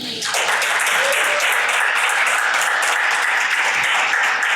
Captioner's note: audience applauds